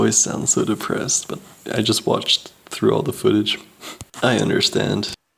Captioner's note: sniff chuckle